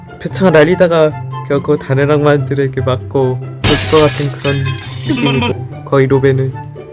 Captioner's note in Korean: 쨍그랑